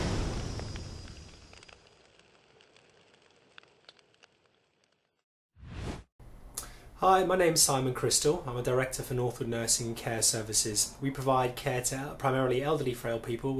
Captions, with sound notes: (flames crackling softly) - Hi, my name's Simon Cristol. I'm a director for Northwood Nursing and Care Services. We provide care to primarily elderly frail people